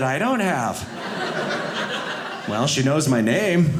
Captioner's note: audience laughing